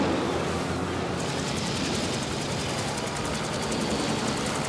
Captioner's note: blades whirring